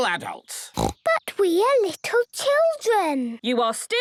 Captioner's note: snorting